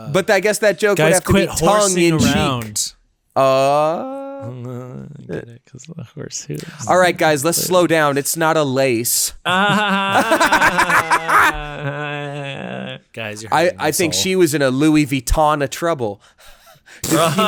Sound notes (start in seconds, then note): 9.5 laughing aloud; 17.0 laughing